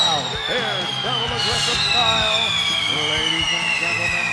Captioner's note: pyro exploding